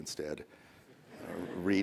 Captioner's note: laughter